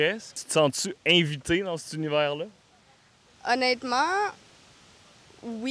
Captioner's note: none